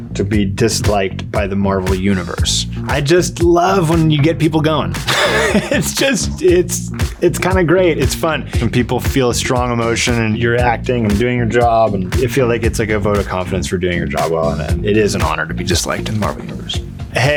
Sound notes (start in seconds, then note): 5.0 laughs